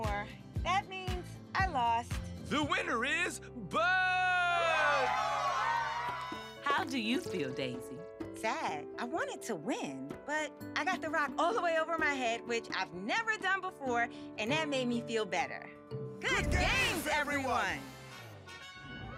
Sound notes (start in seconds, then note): 3.8 all cheering